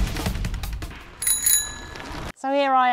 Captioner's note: bell Ring